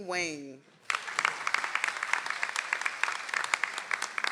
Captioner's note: audience applauds